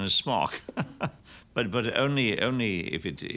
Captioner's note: chuckles